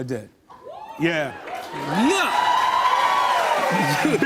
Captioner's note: cheers and applause